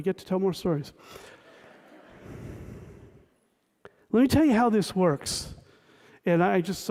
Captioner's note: laughter